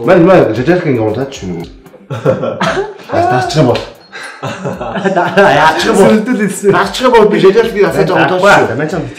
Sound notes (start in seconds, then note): 2.0 laughter; 4.2 laughter